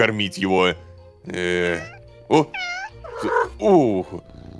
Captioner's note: cat meows